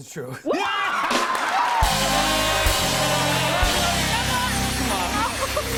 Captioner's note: cheers and applause